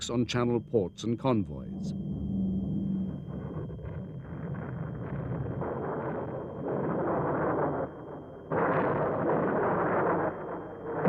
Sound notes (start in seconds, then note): 3.5 plane engines roaring